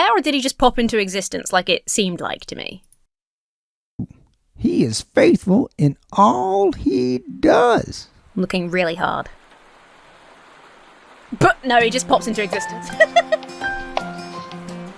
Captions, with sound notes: or did he just pop into existence like it seemed like to me? - He is faithful in all he does. - I'm looking really hard. (rain pattering) (splutters) No. He just pops into existence. (uplifting music) (laughs)